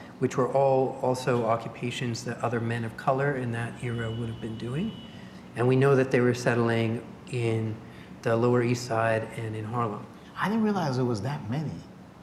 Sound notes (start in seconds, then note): none